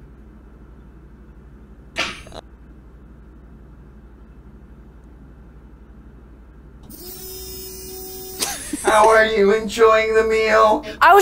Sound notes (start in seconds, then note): 2.0 splat; 6.8 wurrrrrrrr